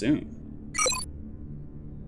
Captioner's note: computer beep